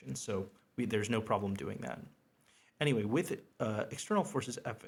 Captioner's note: none